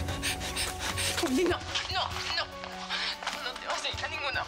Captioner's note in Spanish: Sollozos